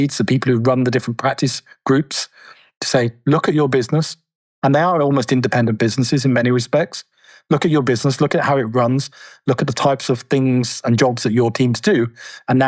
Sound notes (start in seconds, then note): none